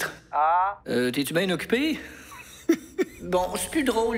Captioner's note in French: rire étouffé